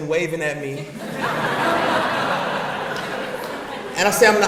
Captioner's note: audience laughs